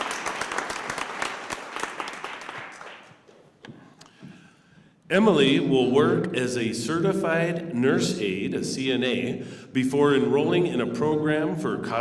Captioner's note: applause